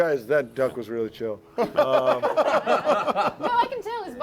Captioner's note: laughter